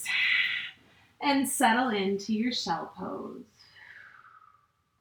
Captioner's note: exhales